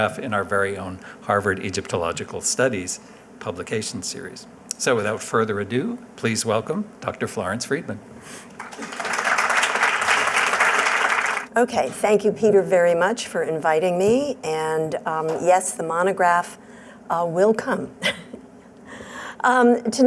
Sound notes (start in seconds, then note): 8.5 applause